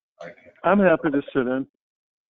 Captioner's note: man at table mumbles